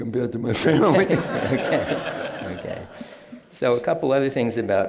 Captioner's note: laughter